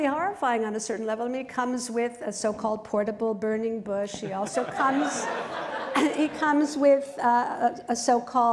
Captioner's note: laughter